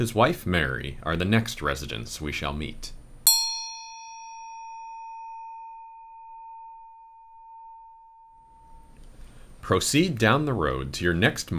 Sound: a bell sounds

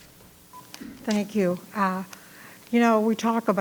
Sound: microphone beeping

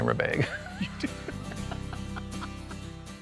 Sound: laughs

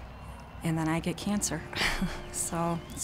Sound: laughs

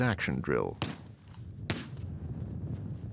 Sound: gunshots

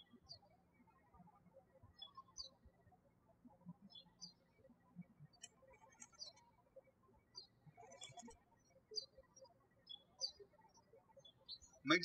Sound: birds chirping

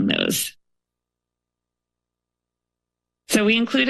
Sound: pause

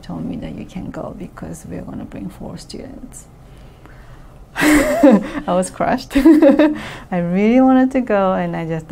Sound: laughs

